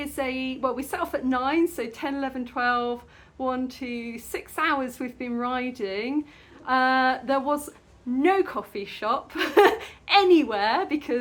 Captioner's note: laughing